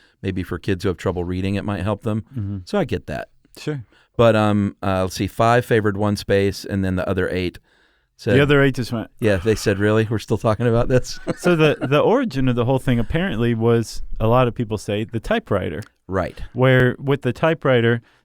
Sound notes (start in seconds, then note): 9.4 sigh; 11.1 laughs